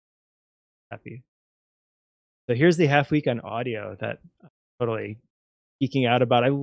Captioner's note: audio out